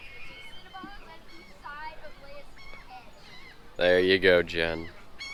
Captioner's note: seagulls calling